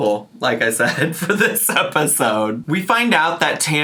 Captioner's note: laughs